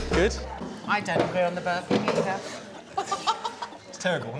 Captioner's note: laughs